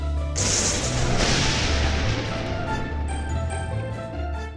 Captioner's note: lightning crash